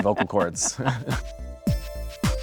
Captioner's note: both chuckles; gentle music